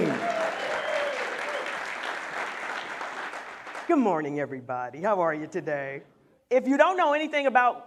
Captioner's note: applause